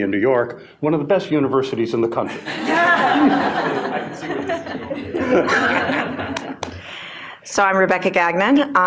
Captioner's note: laughter